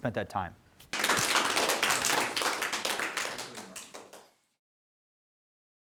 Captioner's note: applause